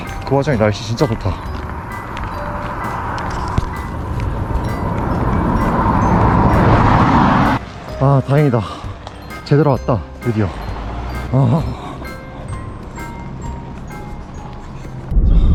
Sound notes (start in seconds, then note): 11.6 sigh of relief